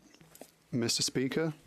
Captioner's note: speaking French